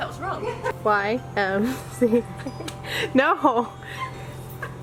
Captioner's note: laughs